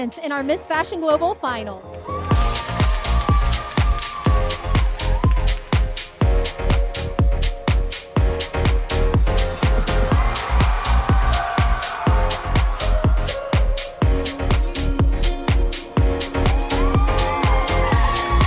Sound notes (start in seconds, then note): 2.1 crowd cheering; 3.1 energetic music